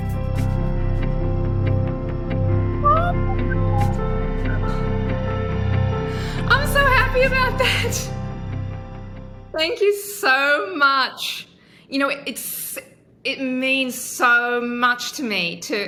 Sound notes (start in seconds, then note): 2.8 sighing